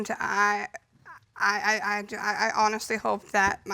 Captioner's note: stammers